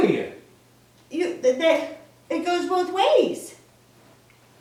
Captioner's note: stuttering